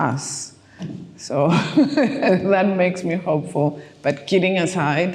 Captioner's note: laughing